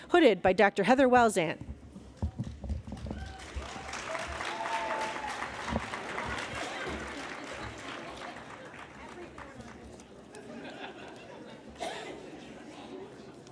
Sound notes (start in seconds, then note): 2.9 applause